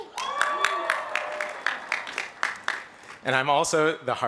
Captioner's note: applause